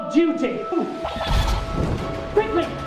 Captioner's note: blaster fires